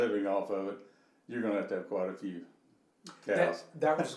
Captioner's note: laughing